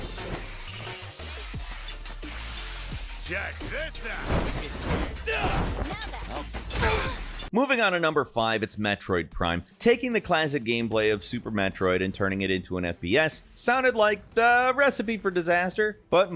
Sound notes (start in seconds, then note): 5.9 grunts; 6.7 group grunts